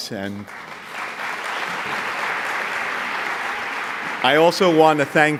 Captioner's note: audience applauds